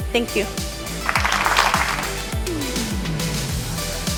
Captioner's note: clapping and music